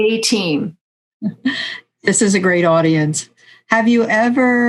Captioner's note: laughs